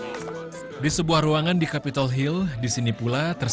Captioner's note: non-english speech